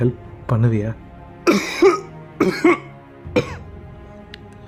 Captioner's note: coughs